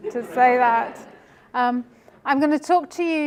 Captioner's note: laughter